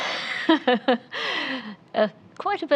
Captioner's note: laughing